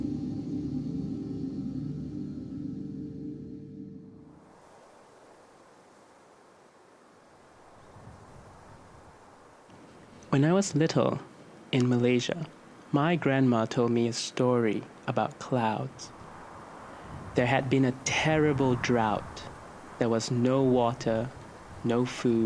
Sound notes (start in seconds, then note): 4.1 wind blowing